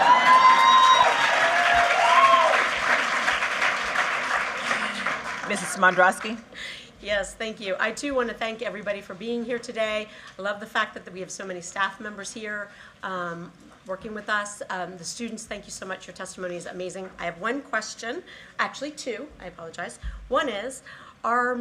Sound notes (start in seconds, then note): 5.9 cheers and applause